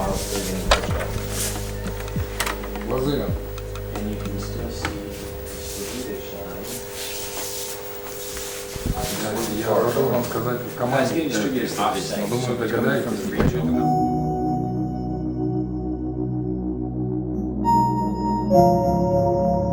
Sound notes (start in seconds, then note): 0.2 workers chattering; 3.0 man speaks in Ukrainian; 10.4 man speaking Russian; 13.6 somber music